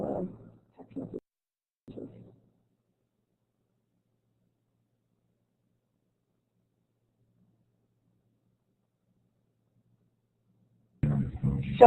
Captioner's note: silence